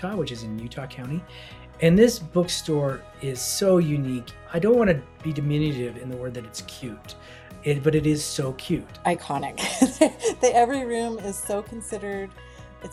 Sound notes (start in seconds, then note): 9.6 laughs